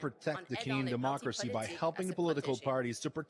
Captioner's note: speaking french